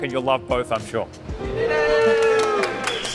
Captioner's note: cheering